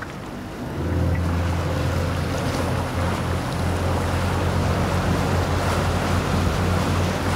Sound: engine running

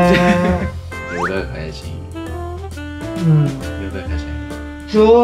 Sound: sweet deep voice for yoga calling

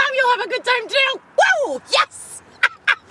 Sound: laughs

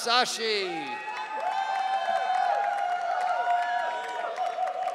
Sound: audience cheering

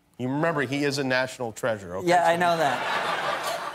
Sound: laughter

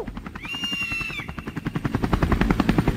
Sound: eagle crying

